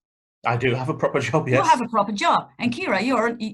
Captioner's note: laughs